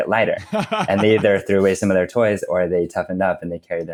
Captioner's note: laughs